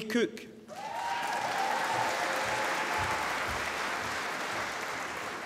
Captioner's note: applause